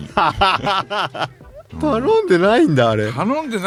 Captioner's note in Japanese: 笑い